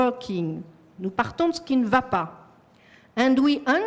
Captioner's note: french